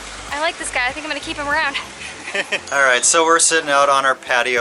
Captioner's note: laughter